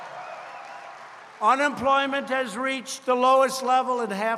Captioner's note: applause